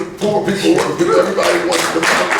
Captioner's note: clapping